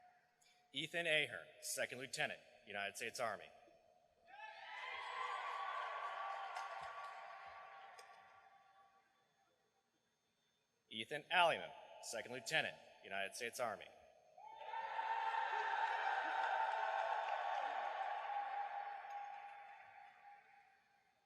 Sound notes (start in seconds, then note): 4.3 cheering and applause; 14.4 cheering and applause